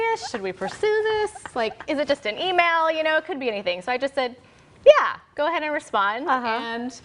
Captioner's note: laughter